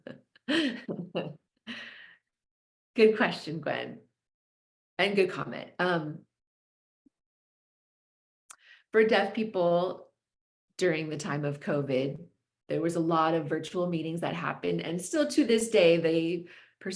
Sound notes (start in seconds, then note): 0.5 chuckles